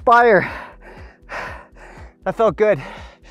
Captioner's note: heavily breathing